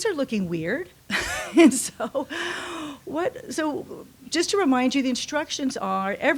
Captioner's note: laughs